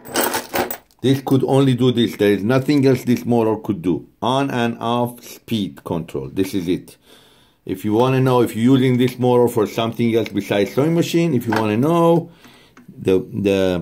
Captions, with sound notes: That is. (bolts banging) This could only do this, there is nothing else this motor could do, on and off, speed control, this is it. If you want to know if using this motor for something else besides sewing machine, if you wanna know,